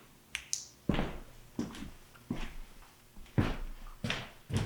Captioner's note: flashlight clicks